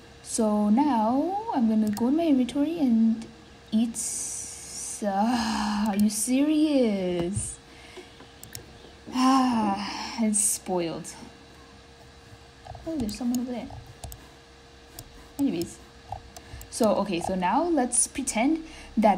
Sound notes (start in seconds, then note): 9.7 le sigh